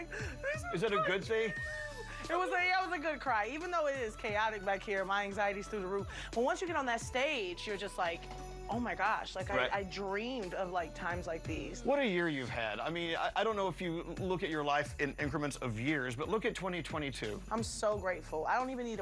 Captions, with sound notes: [imitates crying] "This is my dream!" Is it a good dream? It was--Yeah, it was a good cry, even though it is chaotic back here. My anxiety's through the roof, but once you get on that stage, you're just like, oh, my gosh. -Right. Like, I dreamed of, like, times like these. What a year you've had. I mean, I don't know if you look at your life in increments of years, but look at 2022.